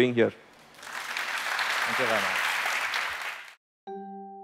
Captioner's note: applause